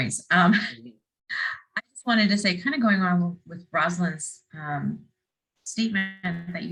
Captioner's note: laugh